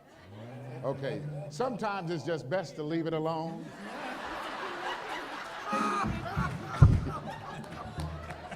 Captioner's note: laughter